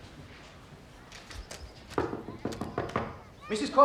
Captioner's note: knocking